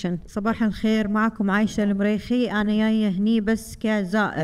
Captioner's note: speaking foreign language